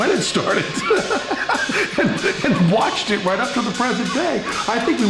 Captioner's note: laughs